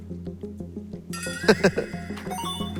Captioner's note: awkward Laugh